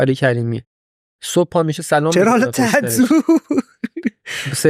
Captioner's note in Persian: خنده